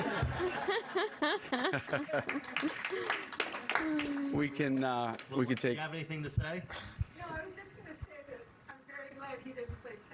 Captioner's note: laughter